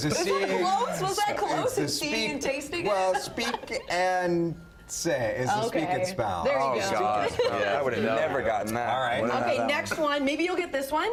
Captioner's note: laughter